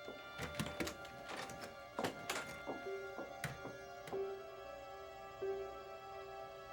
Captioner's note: footsteps shuffle; door opens